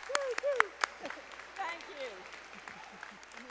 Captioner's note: audience applauding